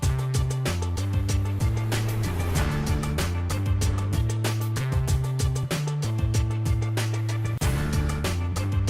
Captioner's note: none